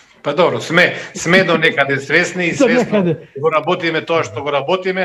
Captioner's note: laughter